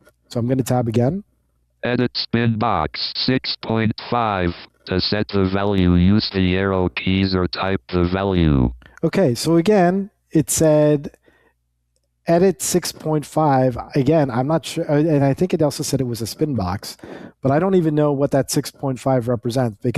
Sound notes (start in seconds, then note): 2.0 automated Voice